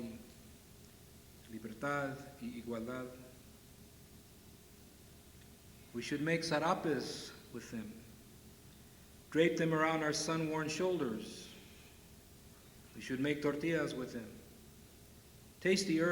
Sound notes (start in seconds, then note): none